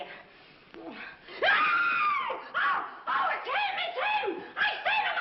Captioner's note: screams